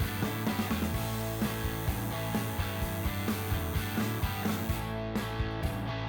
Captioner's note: machine buzzing; upbeat rock music